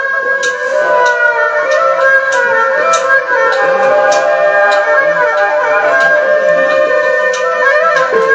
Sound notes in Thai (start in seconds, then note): 4.6 ปรบมือ